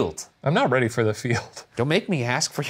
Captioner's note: laughs